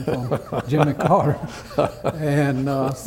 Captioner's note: laughter